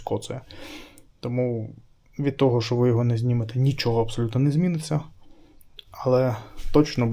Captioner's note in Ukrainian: сопіння